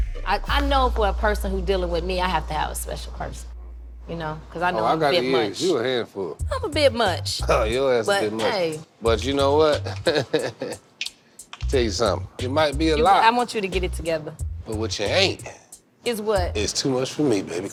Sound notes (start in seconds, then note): 9.7 laughs